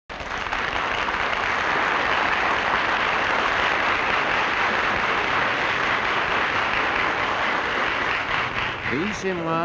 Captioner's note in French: applaudissements